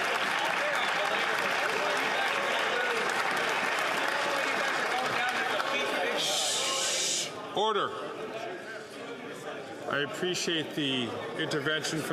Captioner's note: applause